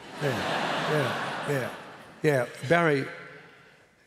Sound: laughter

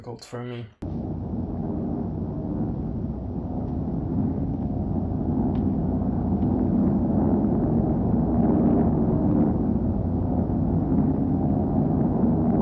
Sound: plane noises

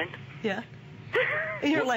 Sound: laughter

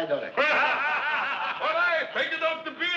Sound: men laughing

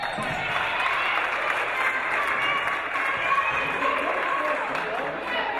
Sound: referee blows whistle; audience applauding

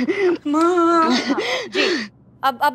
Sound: panting

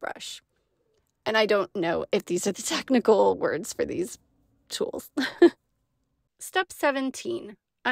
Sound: laughter

